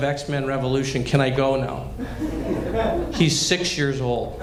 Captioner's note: laughter